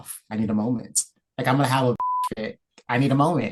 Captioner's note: beep